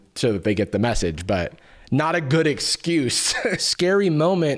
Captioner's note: laughs